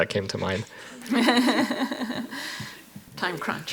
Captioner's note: panel laughs